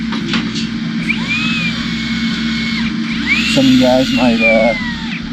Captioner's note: saw cutting